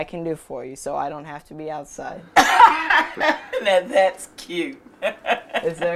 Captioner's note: laughs